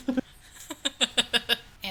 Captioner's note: laughing